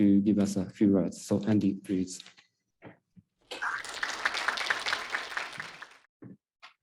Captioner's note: audience applauding